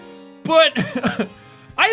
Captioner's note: laughs